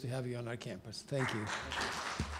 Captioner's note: clapping